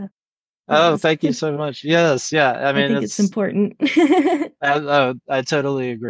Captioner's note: laughs